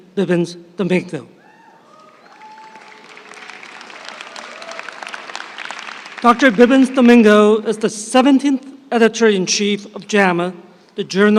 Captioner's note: applause